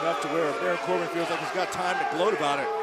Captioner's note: cheers & applause